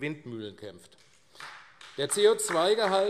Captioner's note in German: Beifall AfD